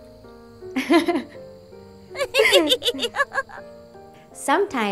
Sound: both laugh

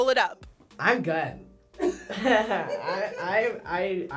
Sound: React laughs; laughs

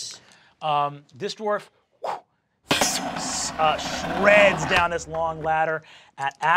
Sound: whooshes

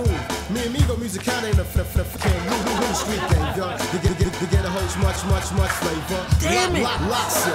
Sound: music skipping; audience laughing

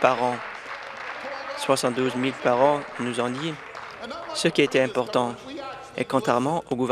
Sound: some Applause

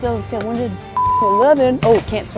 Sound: beeping

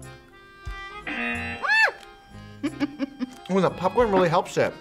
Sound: buzzer rings; laughs

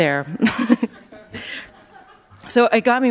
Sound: laughter

